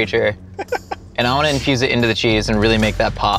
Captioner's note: laughs